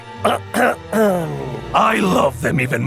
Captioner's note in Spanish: ahem